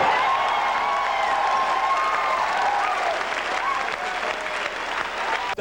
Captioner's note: cheering, yelling, applause